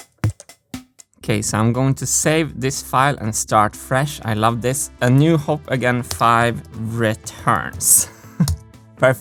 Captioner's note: chuckles